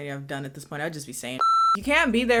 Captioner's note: beep